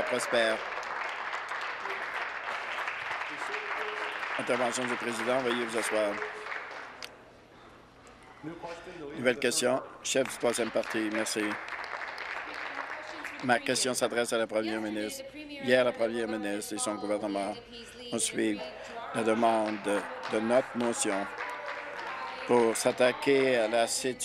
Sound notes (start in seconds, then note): 3.8 applause; 15.9 applause